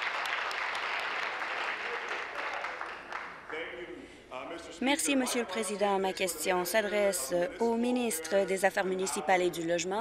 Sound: applause

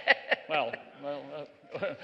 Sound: laughter

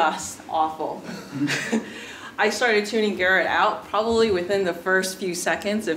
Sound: laugh

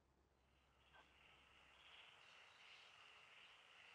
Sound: crickets chirping

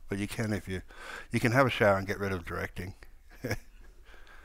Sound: chuckles

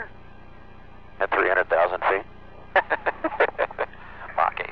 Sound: laughter

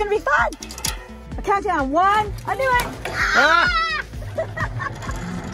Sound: screams; laughs

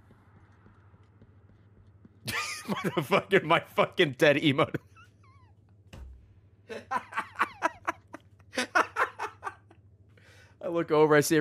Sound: laughs

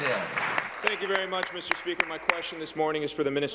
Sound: applause

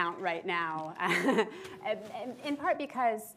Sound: laughs

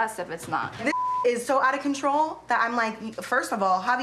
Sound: beep

